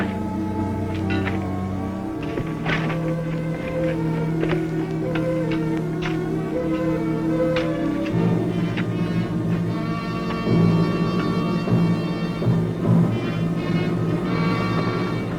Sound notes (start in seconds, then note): 1.4 metal clanking; 4.1 gentle music; 7.7 spade digging; 11.2 suspenseful music